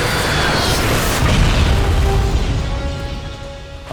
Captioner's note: explosion